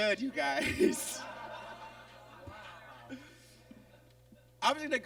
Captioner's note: audience laughs